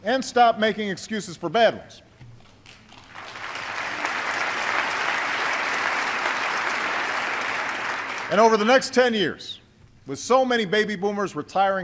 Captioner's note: applause